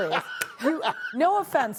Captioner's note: laughter